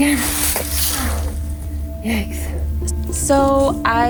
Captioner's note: labored breathing